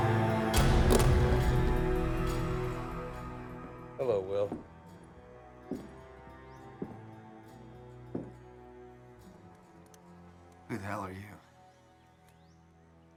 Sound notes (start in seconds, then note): 1.1 gun clatters; 6.2 bootsteps